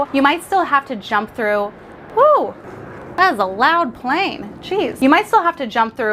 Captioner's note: none